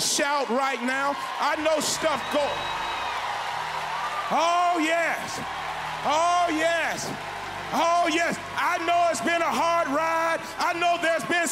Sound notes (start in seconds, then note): 6.4 loud shout of praise